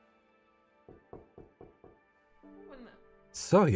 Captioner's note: knocking